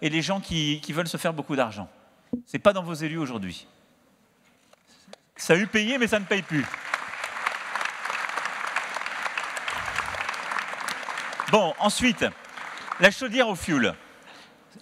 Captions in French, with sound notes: et les gens qui veulent se faire beaucoup d'argent. C'est pas dans vos élus aujourd'hui. Ca eut payé, mais ça ne paye plus. (Applaudissements) Ensuite, la chaudière au fioul.